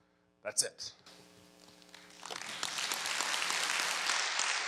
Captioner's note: crowd clapping